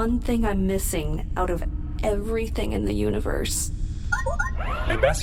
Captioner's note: beeps and boops of an incoming transmission